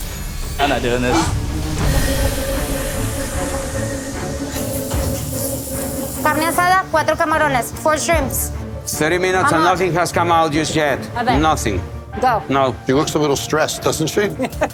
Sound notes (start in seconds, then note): 1.5 suspenseful music; 5.8 speaking spanish; 10.2 spanish